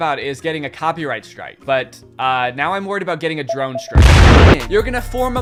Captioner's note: explosion